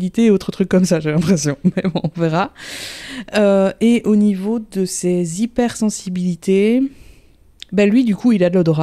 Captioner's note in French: rire